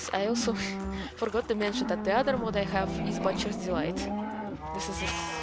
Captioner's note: snicker